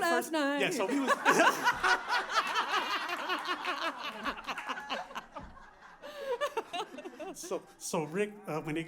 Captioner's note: laughter